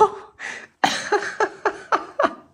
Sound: laugh

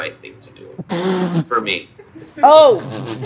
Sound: sniggering; sniggering

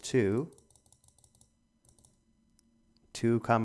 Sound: clicking sounds

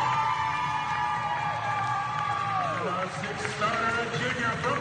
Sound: people cheering

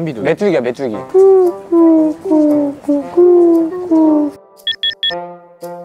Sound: they're chitchatting as the waiting gets longer

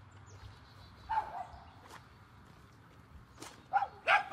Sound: dogs barking

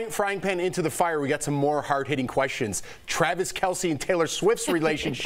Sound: laughter

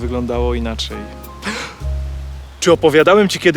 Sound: gasp

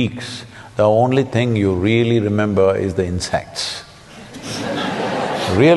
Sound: laughter

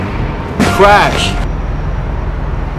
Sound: crash

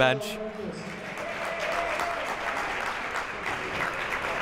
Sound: applauding

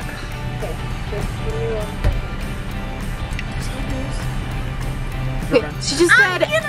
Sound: woman In Speakerphone

